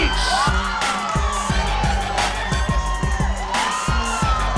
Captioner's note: crowd cheering